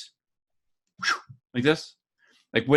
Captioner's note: whooshes